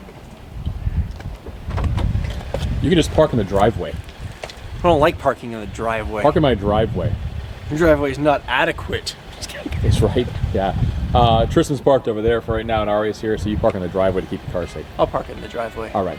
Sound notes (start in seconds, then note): 8.8 chuckles